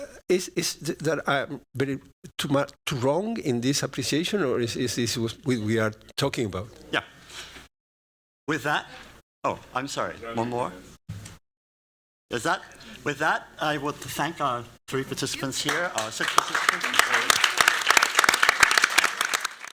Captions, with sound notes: Is it too much wrong in this appreciation or is this who we are talking about? With that-- oh, I'm sorry. One more? With that, I want to thank our three participants here. [applause]